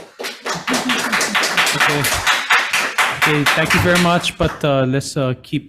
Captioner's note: spectators clapping